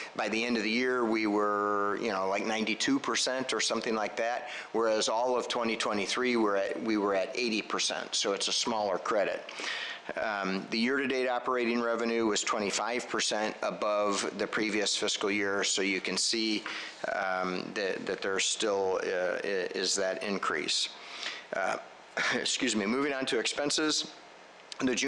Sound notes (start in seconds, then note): 22.2 coughing